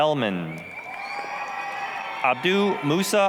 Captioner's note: applause, cheering